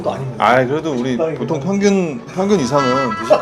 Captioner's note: lol